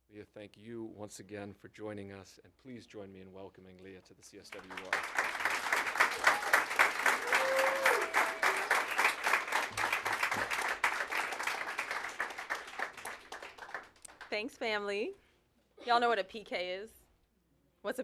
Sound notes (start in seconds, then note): 5.2 applause